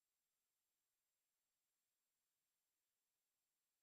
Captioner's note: none